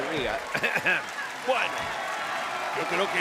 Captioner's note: cough